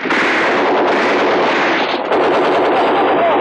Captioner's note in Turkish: Silah sesleri